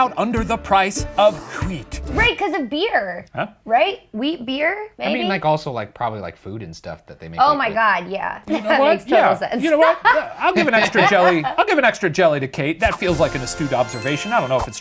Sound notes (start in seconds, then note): 9.7 laugh; 12.9 triumphant music